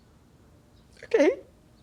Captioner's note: crying